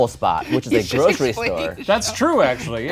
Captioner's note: laughs